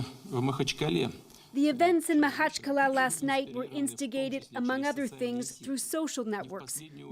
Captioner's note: speaking alternate language